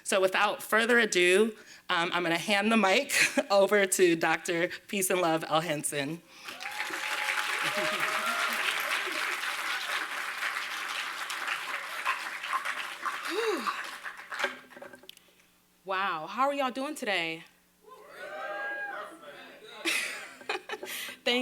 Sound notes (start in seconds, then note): 6.4 applause